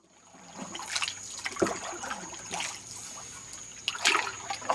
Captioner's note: paddling in water sound